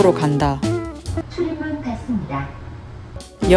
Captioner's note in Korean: 지하철 안내방송